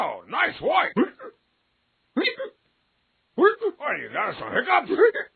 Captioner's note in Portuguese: Rei soluçando; Rei soluça